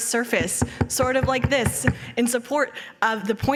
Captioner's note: knocking